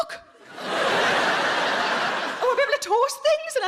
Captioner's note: audience laughing